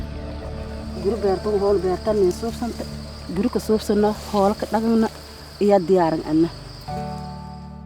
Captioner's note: non-english speech